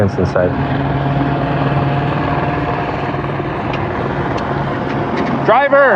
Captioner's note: helopter roarg